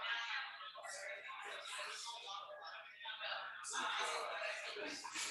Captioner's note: people chattering indistinctly